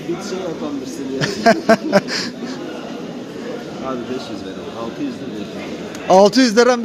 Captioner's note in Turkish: kahkaha